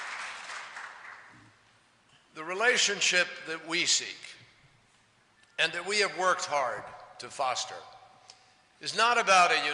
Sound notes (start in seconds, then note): 0.0 applause